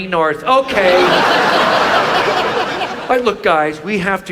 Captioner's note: audience laughs